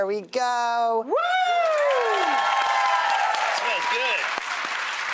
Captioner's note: cheering and applauding